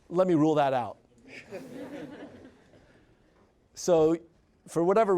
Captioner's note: audience laughs